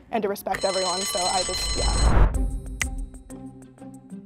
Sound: bell rings; suspenseful music; click

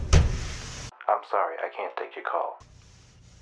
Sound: voicemail

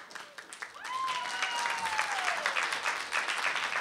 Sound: applause and cheers

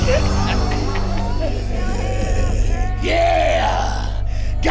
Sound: crowd gasps; laughs; growls

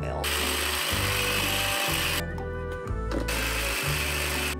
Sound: food processor buzzing

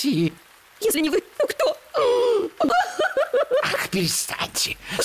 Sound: sobs

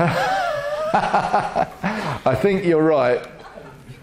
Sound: laughs

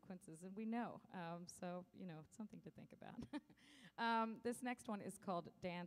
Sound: chuckles

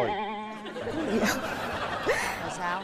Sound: laughing

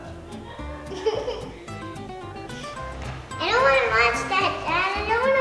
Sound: little girl giggles

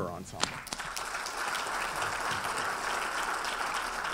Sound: audience applauding

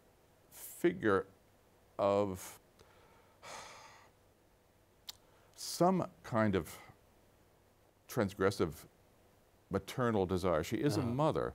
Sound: sighs

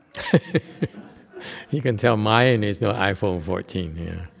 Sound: laughs

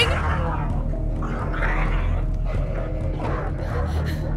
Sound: snarling and growling

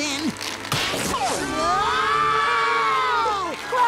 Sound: screaming

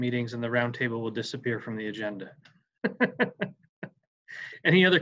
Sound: laughs

